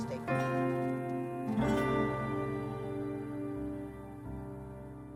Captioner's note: crickets chirping